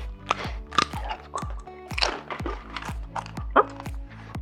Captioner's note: crunching food